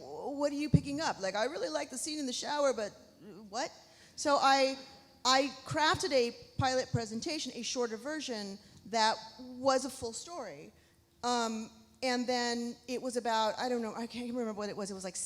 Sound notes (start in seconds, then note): none